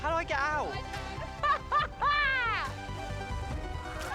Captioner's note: laughing